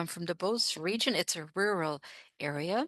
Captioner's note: speaking French